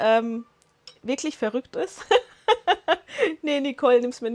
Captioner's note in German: Lachen